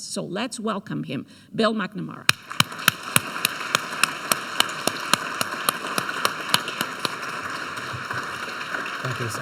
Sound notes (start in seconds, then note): 2.3 audience applauds